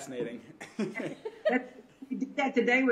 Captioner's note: laughter